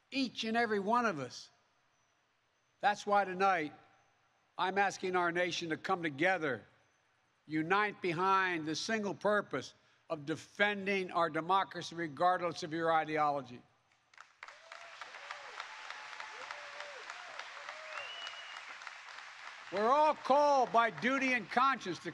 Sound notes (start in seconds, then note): 14.0 applause